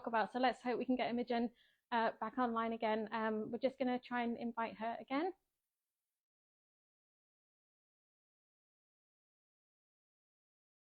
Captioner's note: audio cuts out